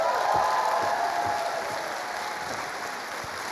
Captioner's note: cheering and applause